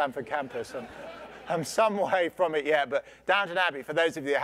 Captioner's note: laugh